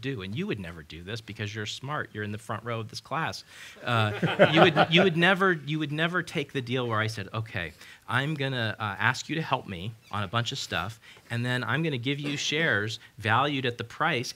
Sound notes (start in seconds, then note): 3.9 laughter